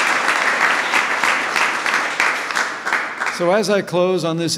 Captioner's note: applause